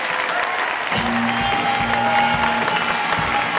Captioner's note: applause